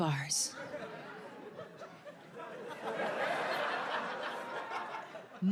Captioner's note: audience laughs